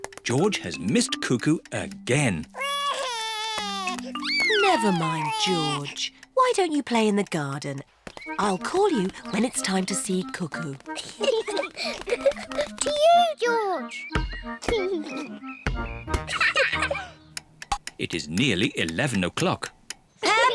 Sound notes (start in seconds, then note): 2.5 sobs; 10.9 both laugh